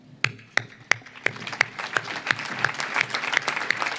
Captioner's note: audience claps